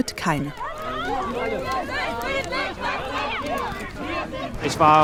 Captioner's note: shouts of protest